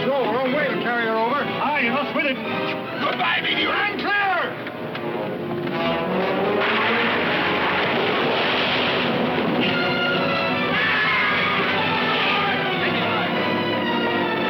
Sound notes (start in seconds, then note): 5.8 tense music; 9.7 dramatic music; 10.7 Ben screaming